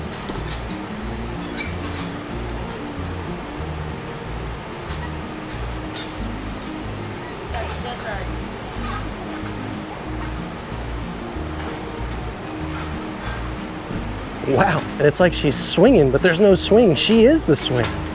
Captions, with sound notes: (feet thump) (bar screeching) (strap scraping) - Don't worry. (bar screeching) - Wow. It's like she's swinging, but there's no swing. She is the swing.